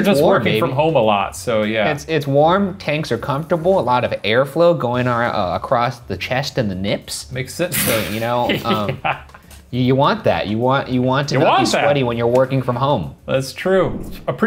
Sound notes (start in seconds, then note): 8.4 laughing; 8.4 scoffs